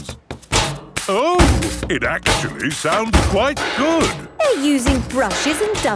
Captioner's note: rhythmic clanging